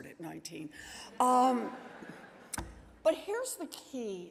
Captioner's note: audience laughing